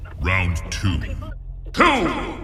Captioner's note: deep voice